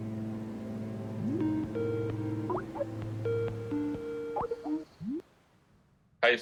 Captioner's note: Skype ringtone playing